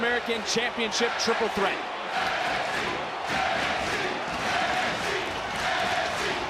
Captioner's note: cheering